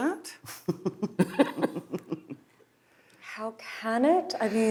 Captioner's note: chuckling